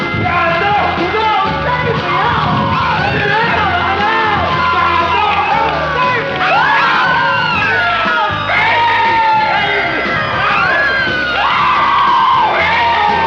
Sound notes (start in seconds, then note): 2.0 muffled screaming